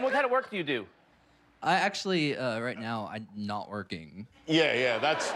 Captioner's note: laughter